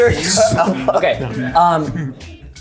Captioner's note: beatboxing